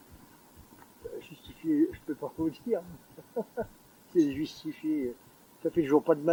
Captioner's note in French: rires